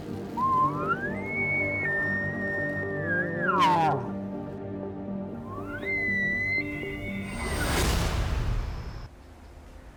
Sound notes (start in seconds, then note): 0.3 cow calling; 3.4 elk chuckling